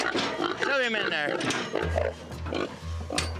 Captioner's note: snorting